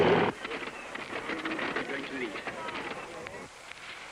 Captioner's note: crowd chatters; airplane engines rumbling